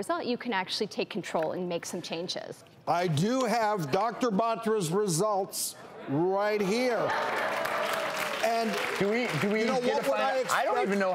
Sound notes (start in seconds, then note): 7.0 audience cheering